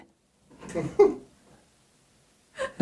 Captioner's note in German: Lacht